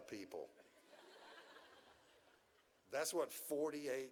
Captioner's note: audience chuckles